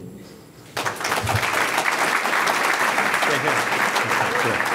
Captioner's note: audience clapping